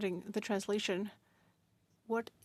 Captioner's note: speaking French